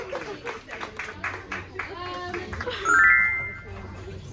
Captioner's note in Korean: 박수